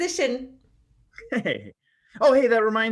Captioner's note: Wyatt laughing